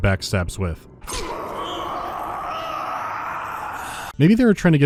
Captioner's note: prolonged death rattle